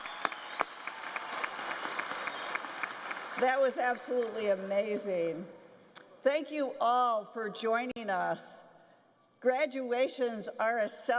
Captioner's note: cheers and applause